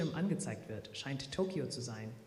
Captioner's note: speaking german